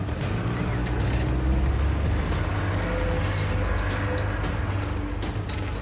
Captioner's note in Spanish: Sonido del carro